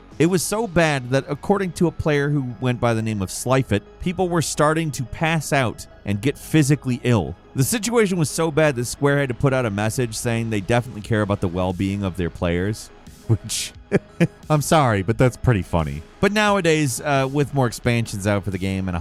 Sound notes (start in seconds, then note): 13.8 laughing